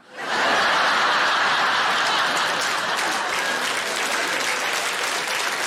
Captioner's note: audience laughing and applauding